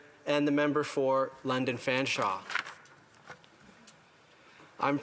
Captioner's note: speaking French